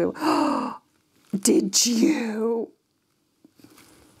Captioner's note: gasps